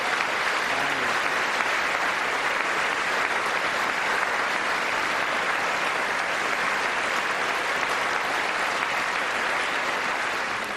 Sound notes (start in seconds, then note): 4.3 applause